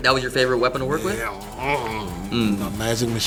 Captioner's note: grunts